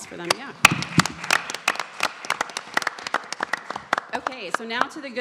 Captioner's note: audience clapping